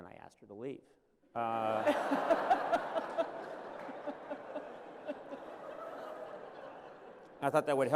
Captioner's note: laughter